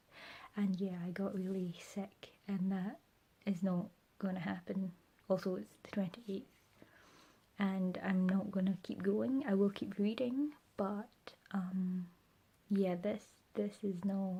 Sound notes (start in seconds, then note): none